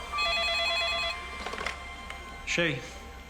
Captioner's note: phone ringing